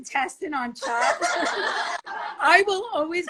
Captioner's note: all laugh